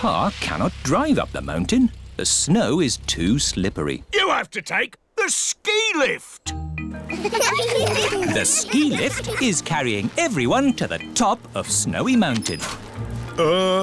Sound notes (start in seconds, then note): 7.1 laughter